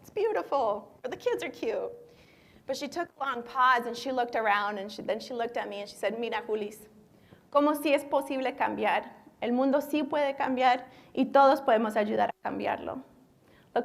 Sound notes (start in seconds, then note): 6.6 speaking spanish